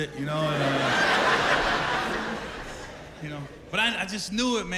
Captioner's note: laughter